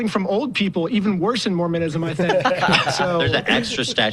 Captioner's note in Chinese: 笑声